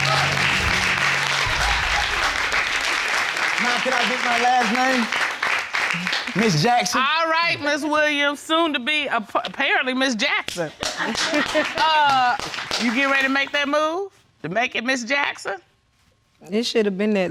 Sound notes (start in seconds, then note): 0.0 audience applauding; 11.8 audience laughs; 11.8 laughs